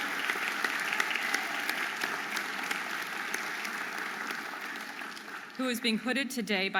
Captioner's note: audience applauding and cheering